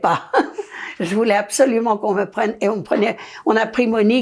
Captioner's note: laughing